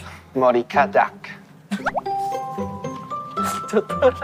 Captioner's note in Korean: 푸흡